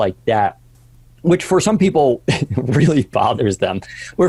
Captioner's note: chuckling